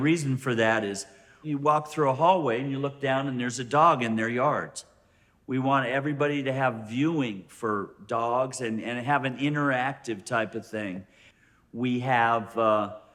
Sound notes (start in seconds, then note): none